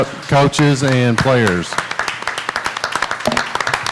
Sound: clapping

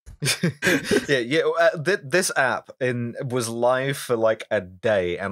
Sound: laughter

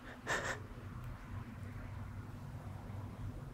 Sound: sobbing

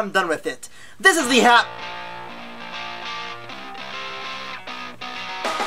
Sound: cell phone rings

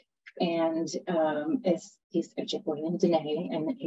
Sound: speaking foreign language

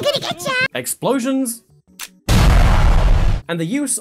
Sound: boom

